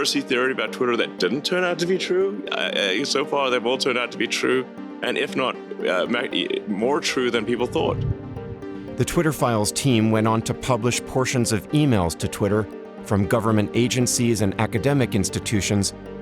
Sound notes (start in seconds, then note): 4.7 stammers